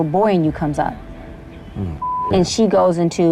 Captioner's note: beep